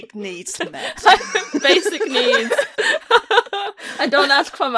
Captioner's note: laughing